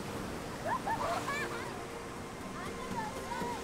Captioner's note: children laugh; ambient music